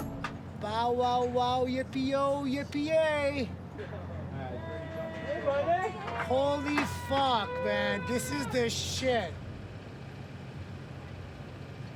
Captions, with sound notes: - Bow wow wow yippy oh yippy yay! (cheering) Holy fuck man, this is the shit!